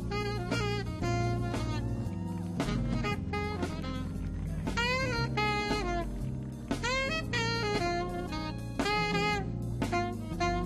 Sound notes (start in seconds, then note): 0.1 saxophone wailing; 1.8 audience clapping; 1.8 woman cheering